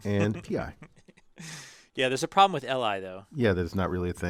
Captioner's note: laugh